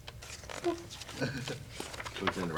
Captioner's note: sound of pages turning